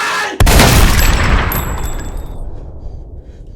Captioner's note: gunshot